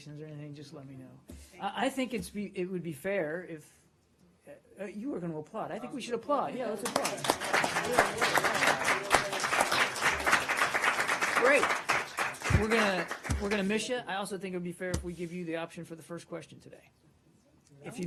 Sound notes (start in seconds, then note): 10.6 applause